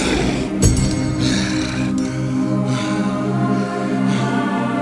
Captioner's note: knife clanking